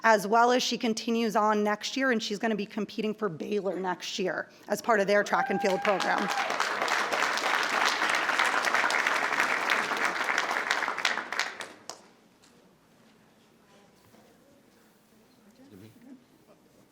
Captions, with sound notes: as well as she continues on next year and she's gonna be competing for Baylor next year as part of their track and field program. (attendees applauding) (attendees cheering)